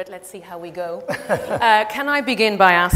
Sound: David laughs

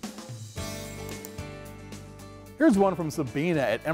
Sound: clicks

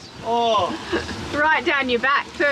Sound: moans; laughs

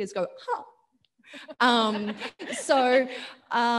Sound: audience laughing

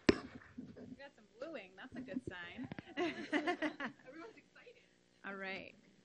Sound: laughs

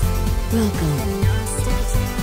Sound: computer Voice

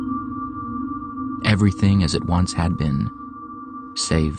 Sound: peaceful music; voiceover

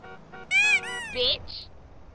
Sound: squeak

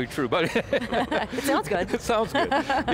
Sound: laughing

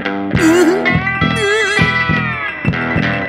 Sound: sob sob

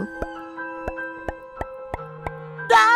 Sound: pop pop pop

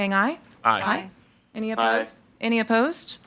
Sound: in Unison

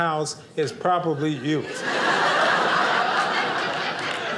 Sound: audience laughing

